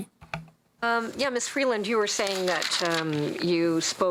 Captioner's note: speaking french